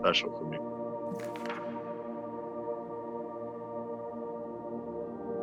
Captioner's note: pages turning